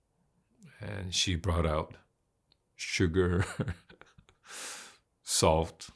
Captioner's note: laughs